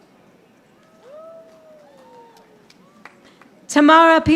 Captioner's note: audience applauding